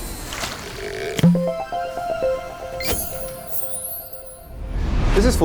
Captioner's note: playful chime